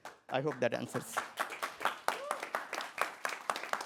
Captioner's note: applause